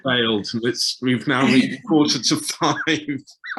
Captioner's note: murmurs